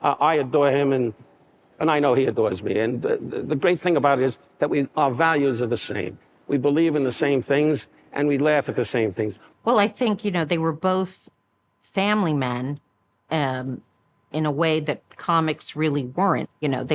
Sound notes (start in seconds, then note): none